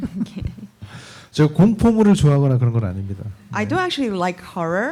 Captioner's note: speaking korean